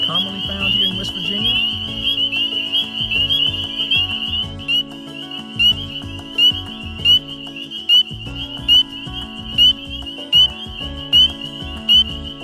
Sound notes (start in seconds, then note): 4.7 calm instrumental music; 4.7 frog peeping